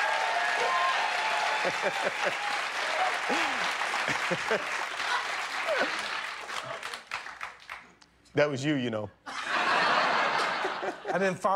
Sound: cheers and applause

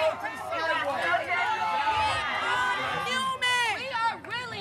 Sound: yelling

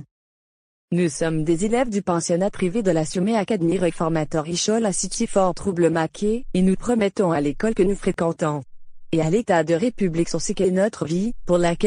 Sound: speaking french

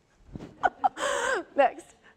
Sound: laughs

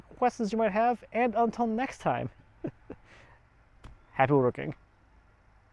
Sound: chuckles

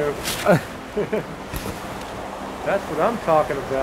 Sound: chuckling

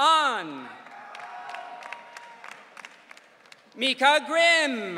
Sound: audience cheering

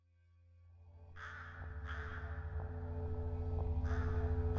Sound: bird cawing

